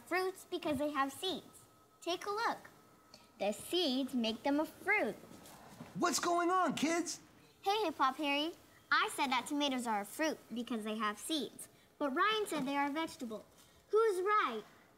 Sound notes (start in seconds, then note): none